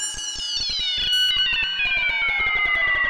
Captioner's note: none